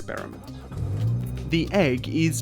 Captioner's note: car noises